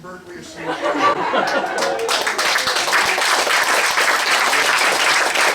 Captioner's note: laughter, applause